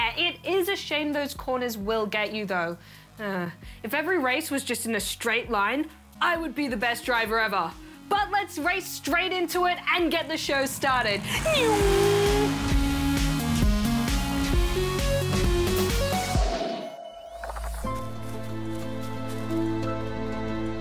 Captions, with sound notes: It is a shame those corners will get you, though. Ah. If every race was just in a straight line, I would be the best driver ever. But let's race straight into it and get the show started. (IMITATES RACING CAR) (INSPIRATIONAL MUSIC)